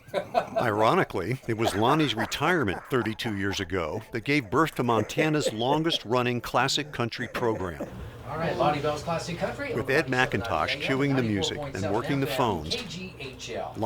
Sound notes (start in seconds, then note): 9.8 voiceover